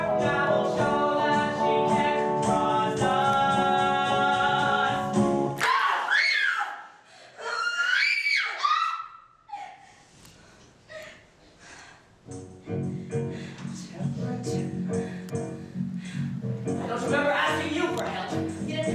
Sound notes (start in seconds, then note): 5.1 bitch slap; 7.3 screams